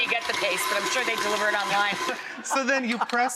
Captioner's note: laughs